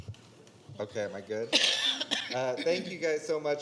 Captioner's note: microphone being adjusted; coughing